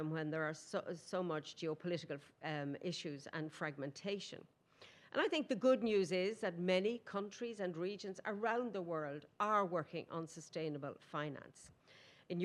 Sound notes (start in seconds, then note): none